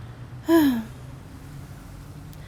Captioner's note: Catwoman sighs